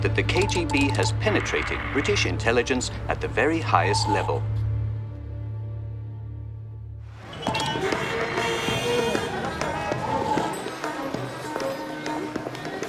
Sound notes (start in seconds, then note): 7.0 city commotion; 9.6 exotic beat music